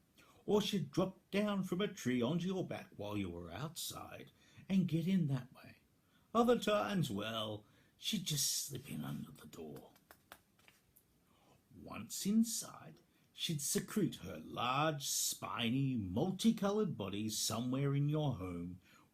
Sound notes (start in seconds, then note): none